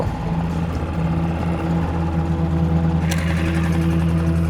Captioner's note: motor boat whirring; ominous rumbling music